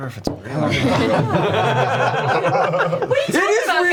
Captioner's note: all laugh